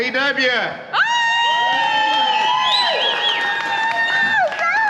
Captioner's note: women cheering